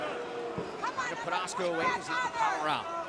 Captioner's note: crowd chatter